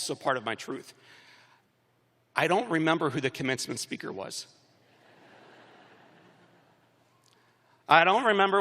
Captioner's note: laughter